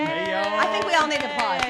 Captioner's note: cheering & clapping